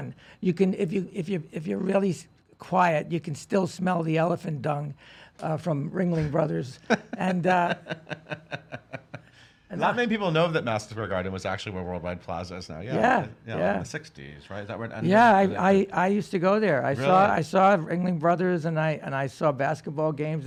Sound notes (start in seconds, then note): 6.7 laughs